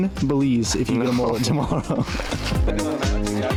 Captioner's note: men chatter